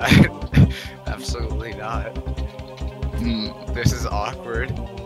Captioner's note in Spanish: risa nerviosa